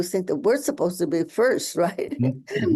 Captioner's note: laughs